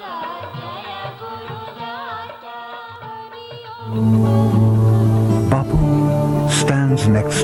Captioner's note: chanting